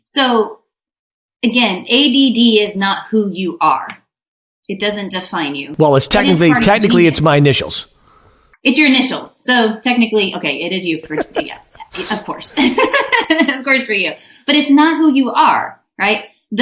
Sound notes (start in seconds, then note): 12.6 laughing